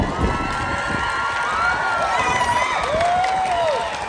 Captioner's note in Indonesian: tepuk tangan